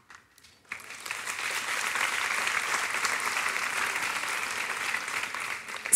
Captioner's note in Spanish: Aplausos